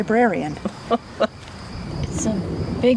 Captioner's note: Gert laughs